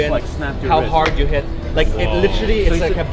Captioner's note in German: klatscht in die Hände